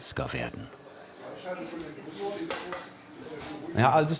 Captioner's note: quiet conversation in the background